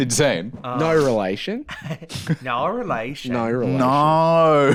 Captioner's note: Australian accent